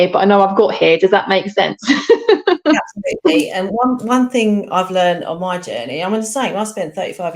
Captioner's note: laughter